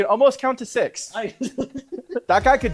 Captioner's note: group laughing